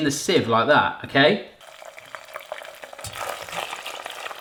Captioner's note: popping